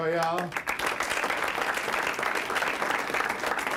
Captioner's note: applause